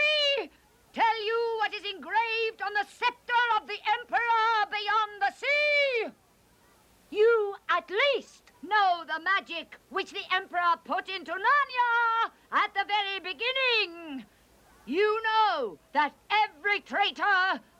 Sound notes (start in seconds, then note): none